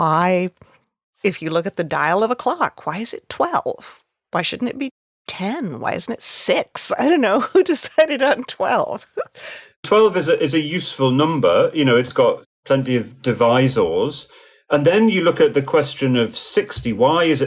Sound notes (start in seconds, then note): 8.0 chuckling